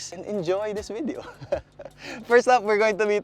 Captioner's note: chuckles